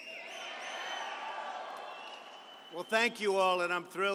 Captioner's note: applause